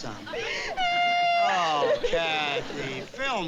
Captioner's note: cries loudly